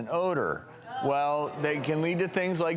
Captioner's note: audience moaning